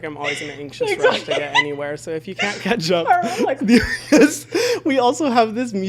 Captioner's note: laughs